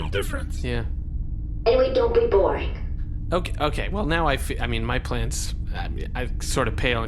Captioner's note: stammers